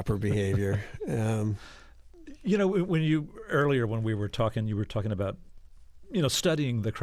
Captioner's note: laughter